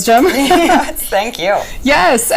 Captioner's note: laughing